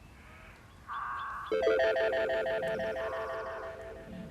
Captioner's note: birds chirping